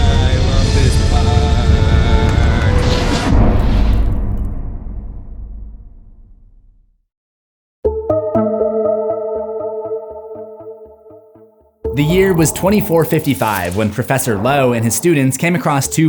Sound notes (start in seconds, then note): 3.2 impact